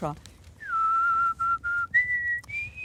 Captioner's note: she whistles